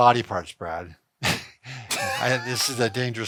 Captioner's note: both laugh